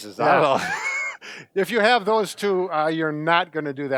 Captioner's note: laughing